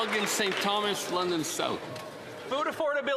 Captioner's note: applause